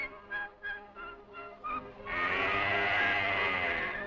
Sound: mooing

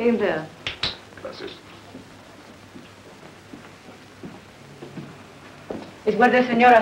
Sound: Marshal speaking in foreign language; speaks in foreign language

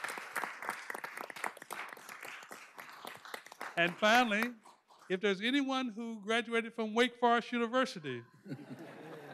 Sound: applause

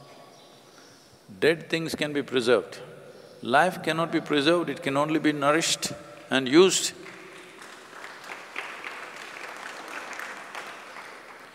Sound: applause

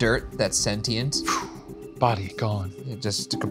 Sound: whooshing

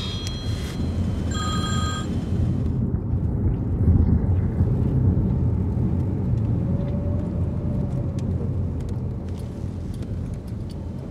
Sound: phone rings

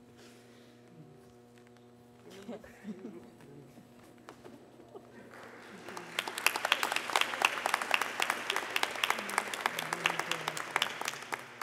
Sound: more applause

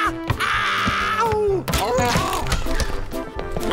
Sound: Puss yowls

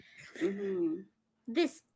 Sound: chuckles

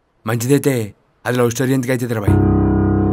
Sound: none

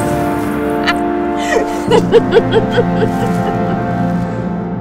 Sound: Bellatrix laughing

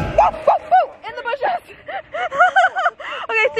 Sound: laughs

